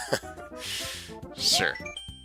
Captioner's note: inhaling